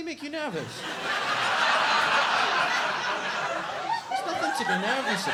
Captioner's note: audience laughs